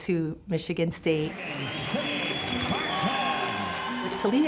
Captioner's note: crowd cheering